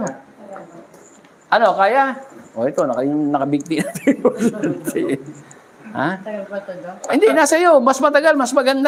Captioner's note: laughter